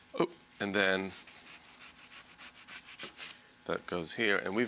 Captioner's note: knife slicing